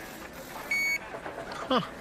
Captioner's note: scanning sound